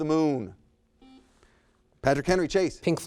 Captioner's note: buzzer sounds